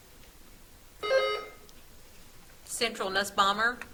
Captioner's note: buzzer trills